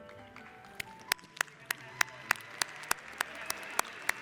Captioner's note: applauding